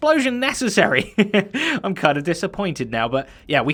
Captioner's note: chuckles